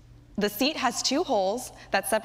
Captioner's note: none